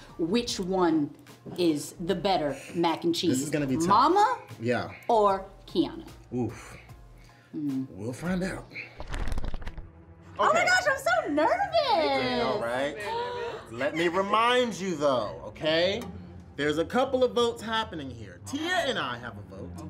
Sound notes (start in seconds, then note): 8.6 tense music; 8.8 pages flipping